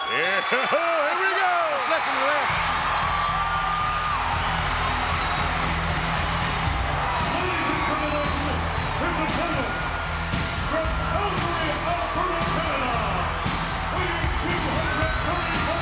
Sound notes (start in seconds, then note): 2.8 crowd cheering; 2.8 hard rock music